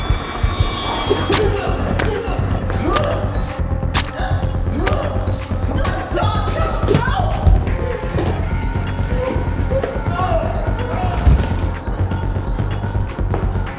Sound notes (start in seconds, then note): 1.6 Caleb groaning; 1.6 flesh squelching; 8.6 Caleb groaning; 8.6 suspenseful music